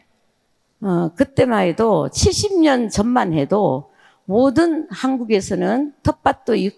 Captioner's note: speaking in foreign language